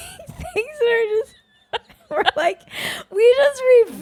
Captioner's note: both laughing